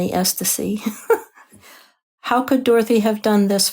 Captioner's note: laughs